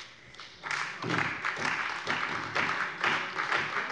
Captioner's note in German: Beifall bei der CDU und dem BÜNDNIS 90/DIE GRÜNEN